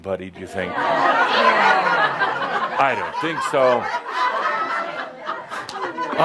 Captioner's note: audience agrees and some laughter